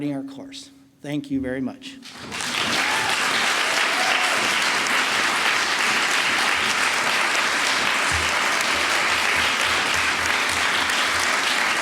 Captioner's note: applause